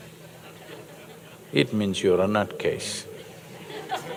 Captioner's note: laughter; laughter